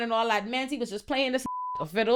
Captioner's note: beep